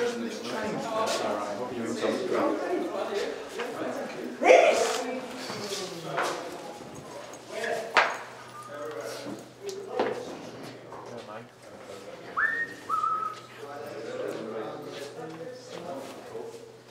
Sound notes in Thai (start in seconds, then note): none